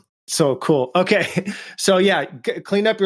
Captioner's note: laughs